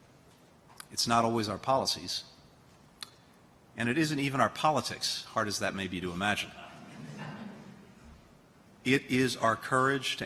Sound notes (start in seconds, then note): 6.6 laughter